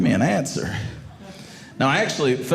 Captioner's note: audience laughing